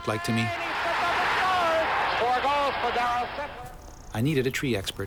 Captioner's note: cheering